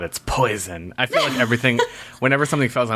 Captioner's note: laughs